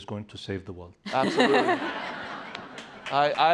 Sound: laughter

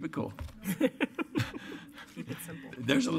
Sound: laughter

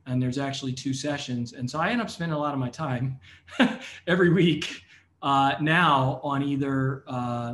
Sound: laugh

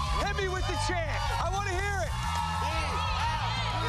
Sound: cheers and applause

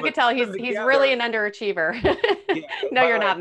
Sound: laughing

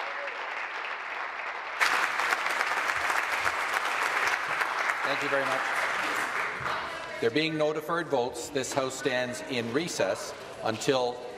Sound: applause

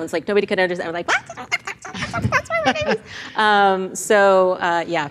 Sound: squeaks

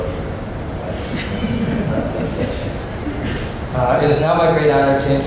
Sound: laughter

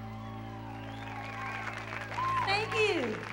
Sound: audience applauding

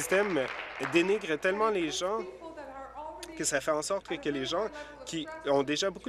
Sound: applause

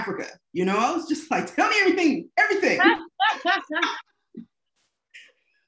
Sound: both laughing

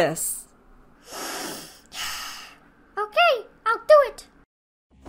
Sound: breath in and out

